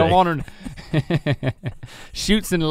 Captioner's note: chuckling